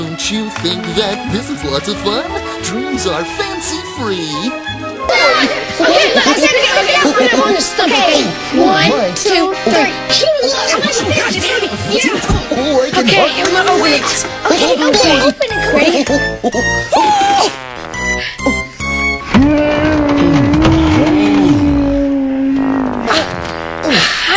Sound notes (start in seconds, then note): 5.1 kids chatter; 11.4 grunt rapidly; 16.9 fast, high-pitched grunt; 19.3 slow, low pitch grunt